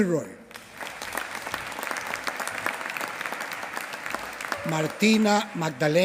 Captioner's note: applause